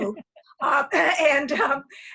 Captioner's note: laughs